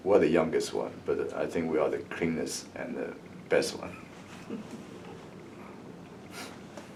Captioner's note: laughs